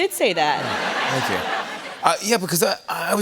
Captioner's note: laughter